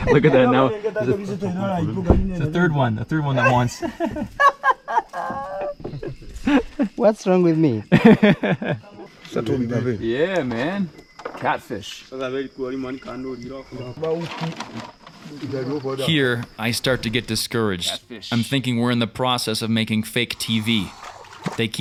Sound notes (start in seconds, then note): 3.4 laughs; 7.9 laughs; 9.6 man speaking French; 12.4 man speaking foreign language